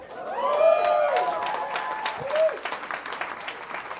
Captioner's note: audience cheering